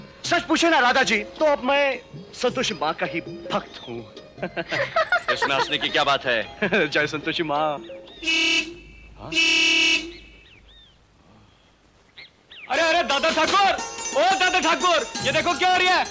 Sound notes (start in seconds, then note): 4.3 laughs; 8.2 bus honking